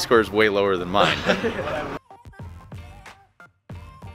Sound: chuckling; pop music

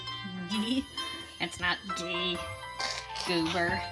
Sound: laughing

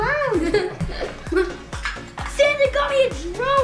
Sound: laughing

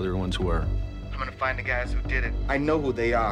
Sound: on phone

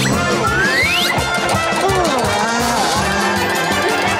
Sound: yawning

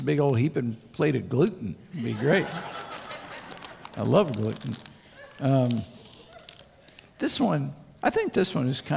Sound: crowd Laughter

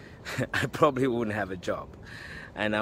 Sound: laugh

